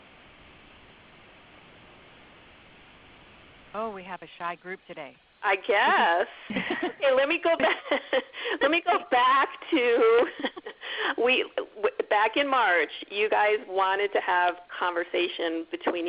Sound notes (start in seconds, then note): 5.8 laughs; 6.4 laughter; 9.9 laughs